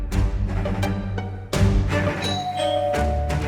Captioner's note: pompous music; doorbell